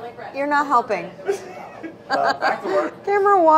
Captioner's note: laughing